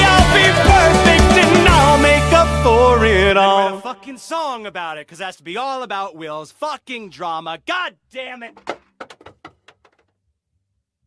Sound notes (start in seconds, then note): 2.2 background music fades out; 8.6 a sound like a CD player closing or something falling